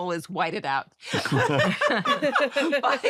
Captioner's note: laughter